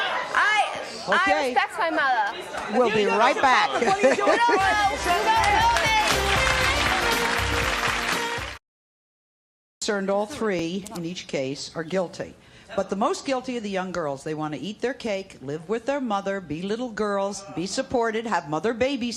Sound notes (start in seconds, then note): 4.0 upbeat music; 4.6 applause